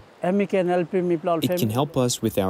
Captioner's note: through translator